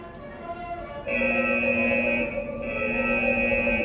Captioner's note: alarms ringing